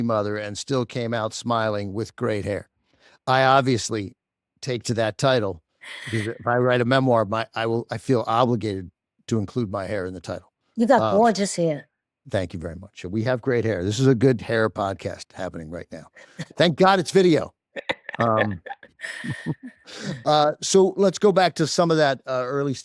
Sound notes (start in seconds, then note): 17.8 chuckles; 17.8 laughs